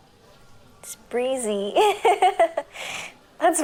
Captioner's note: laugh